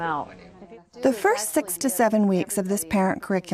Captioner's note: voiceover